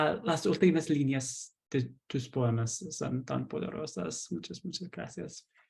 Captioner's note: continues to thank her in Spanish